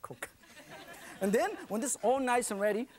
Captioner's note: laughing